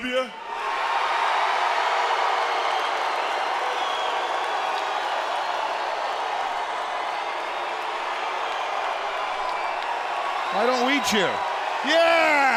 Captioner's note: crowd cheering